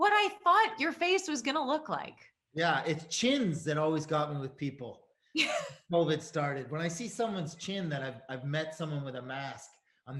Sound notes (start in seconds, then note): 5.4 Sarah laughs